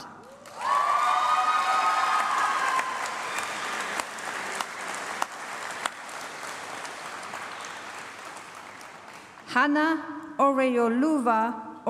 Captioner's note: applause